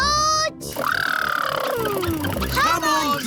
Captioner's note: makes sputtering noises